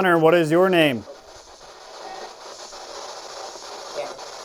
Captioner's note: static